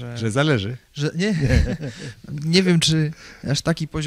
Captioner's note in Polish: śmiech